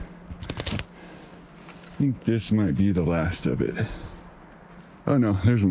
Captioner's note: wind